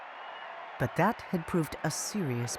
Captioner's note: crowd cheering